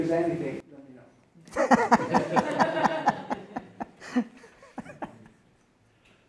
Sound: laughter

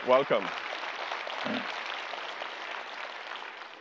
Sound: applause

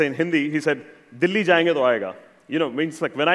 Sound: speaking hindi

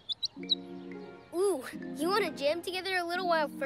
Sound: chirps

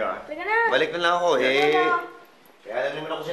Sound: none

